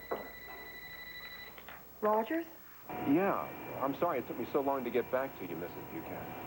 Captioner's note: telephone rings